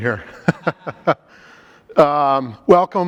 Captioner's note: group laughing